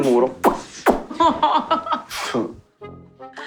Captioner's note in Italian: Risate